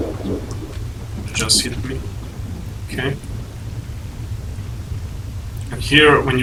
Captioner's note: thunder and strong wind in the whole area near the anomalies